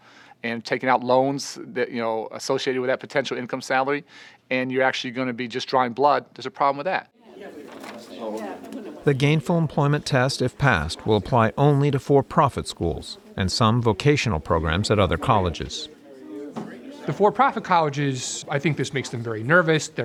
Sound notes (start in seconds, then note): 7.2 people talking in background